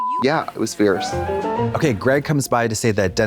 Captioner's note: bright chime